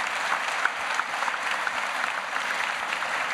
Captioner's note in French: Applaudissements